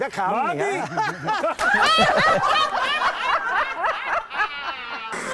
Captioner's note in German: Gelächter